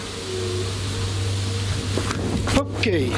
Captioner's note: droning